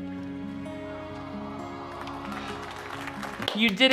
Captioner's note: crowd applauding